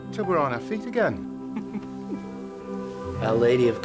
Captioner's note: laughing